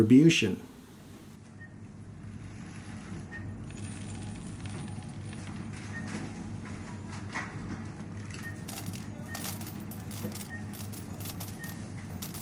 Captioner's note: items being scanned, money and cash registers